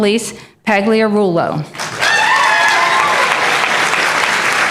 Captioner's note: applause